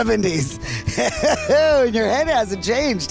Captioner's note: laughing